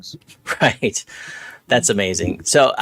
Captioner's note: laughing